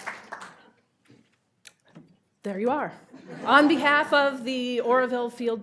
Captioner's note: audience applauding